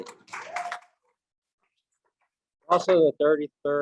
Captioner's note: audience applauding loudly